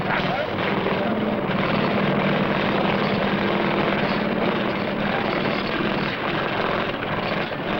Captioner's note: engine Drilling